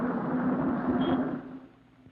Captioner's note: car horn beeps